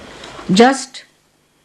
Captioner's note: none